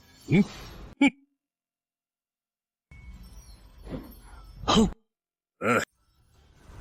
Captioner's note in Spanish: Suspiro